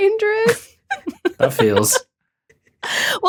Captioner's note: both giggling